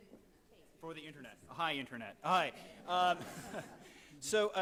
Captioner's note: laughs